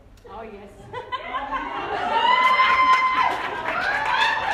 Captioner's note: frenzied exclamation